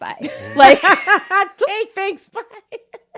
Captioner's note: laughs